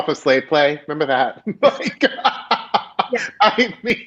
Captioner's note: laughing